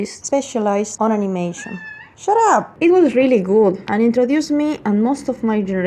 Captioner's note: meow!